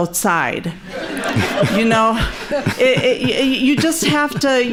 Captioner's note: laughing